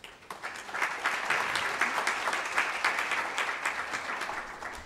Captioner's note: audience applauds